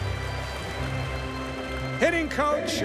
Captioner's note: crowd cheering